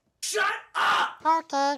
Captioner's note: voiceover